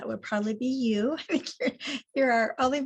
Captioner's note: laughs